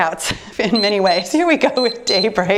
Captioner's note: timer beeps